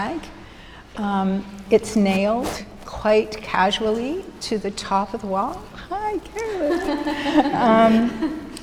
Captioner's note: laughs